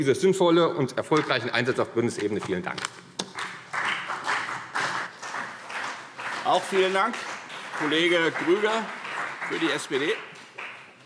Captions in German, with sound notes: sinnvollen und erfolgreichen Einsatz auf Bundesebene. - Vielen Dank. [Beifall CDU und BÜNDNIS 90/DIE GRÜNEN] Vielen Dank. - Es spricht Kollege Grüger für die SPD.